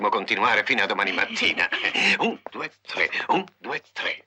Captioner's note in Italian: risate